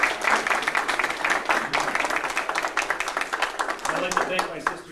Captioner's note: crowd applause